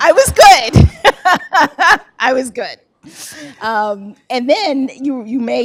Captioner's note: laughs